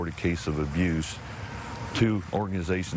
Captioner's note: motors revving